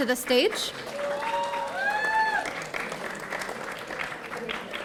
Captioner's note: audience cheering